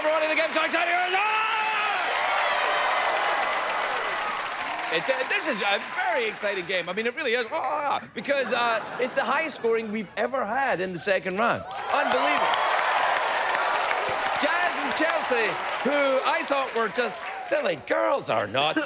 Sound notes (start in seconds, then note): 3.3 cheers and applause; 7.3 cheering; 11.6 cheers and applause